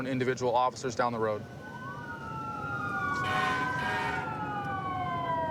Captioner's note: emt sirens blaring